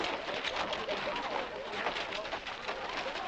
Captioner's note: crowd chattering